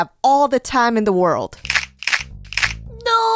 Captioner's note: crushing Sounds